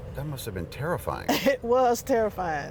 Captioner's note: laughter